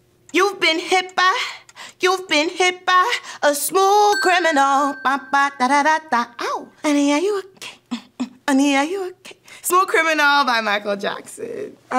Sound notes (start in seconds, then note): 4.1 bell dings